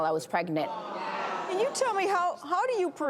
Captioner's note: audience gasps